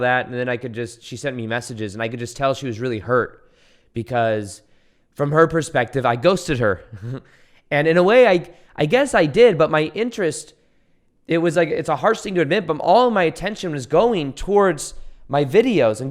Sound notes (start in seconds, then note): 6.8 chuckles